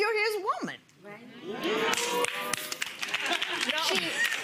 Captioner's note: clapping